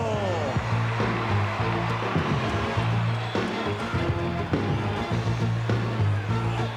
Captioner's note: audience cheering; upbeat music